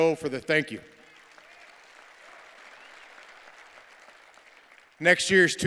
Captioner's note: cheers and applause